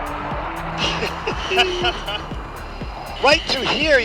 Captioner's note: jet aircraft roaring; both laugh